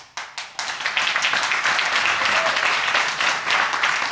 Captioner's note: audience applauding